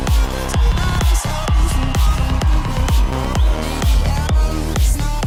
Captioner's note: audience cheers